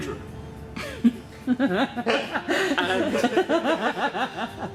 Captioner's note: breaks into laughter behind camera